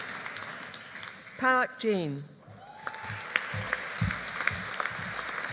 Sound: audience applauding

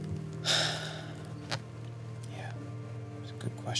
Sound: sighs

